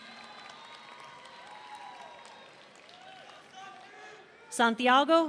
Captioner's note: audience cheering